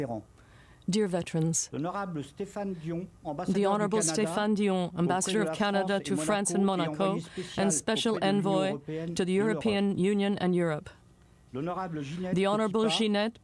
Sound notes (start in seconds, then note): 4.5 speaking French